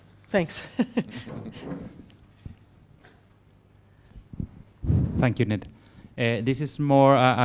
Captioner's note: laugh